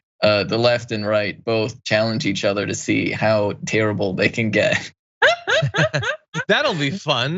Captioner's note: laugh